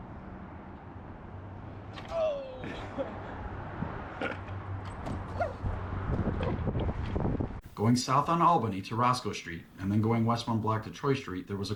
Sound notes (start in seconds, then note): 2.2 laughs